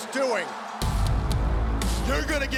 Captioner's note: crowd cheering